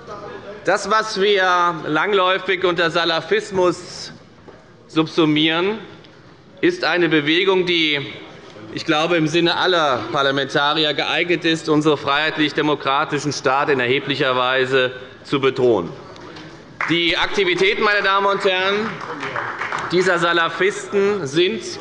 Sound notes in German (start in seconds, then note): 16.7 Beifall bei der FDP und bei Abgeordneten der CDU